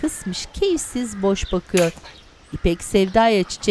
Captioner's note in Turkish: Çapa vurma sesi